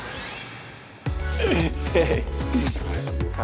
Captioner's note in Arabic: ضحك